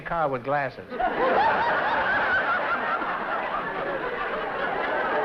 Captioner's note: laughter